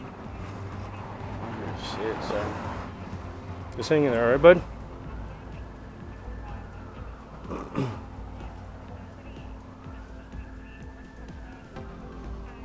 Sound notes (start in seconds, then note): 4.1 officer's issued radio going off; 4.1 sirens getting closer/louder